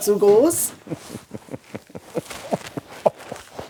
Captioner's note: he laughs